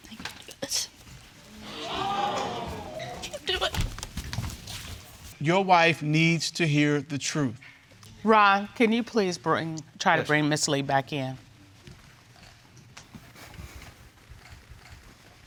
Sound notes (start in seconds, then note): 1.5 audience exclaiming; 4.5 sobbing